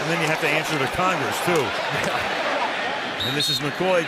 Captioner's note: pa announcement